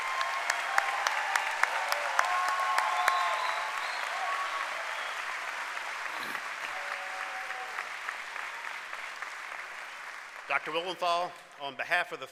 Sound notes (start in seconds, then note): 1.3 cheering and applause